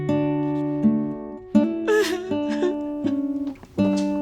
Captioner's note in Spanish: sollozos